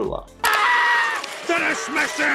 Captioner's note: screaming